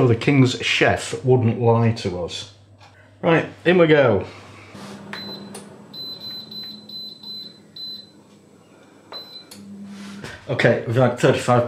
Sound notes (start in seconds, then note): 5.0 beep. beep. beepbeep; 5.9 buzz